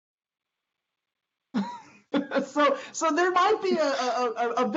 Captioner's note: chuckles